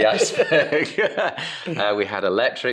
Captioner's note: everyone laughs